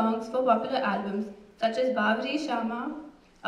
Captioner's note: non-english speech